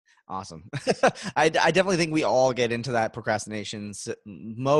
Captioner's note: laughs